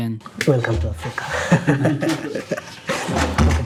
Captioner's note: laughing